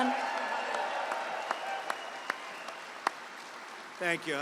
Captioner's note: applause